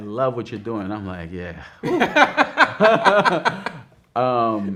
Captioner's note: both laughing